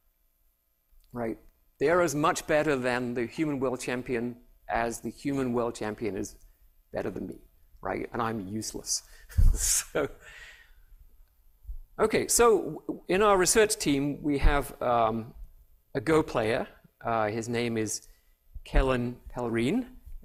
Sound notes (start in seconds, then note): 9.3 laughter